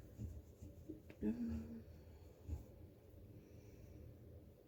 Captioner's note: hums